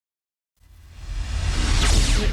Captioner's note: electronic whoosh